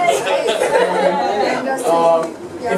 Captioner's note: laughter